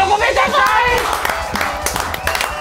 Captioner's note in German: Jubel, Applaus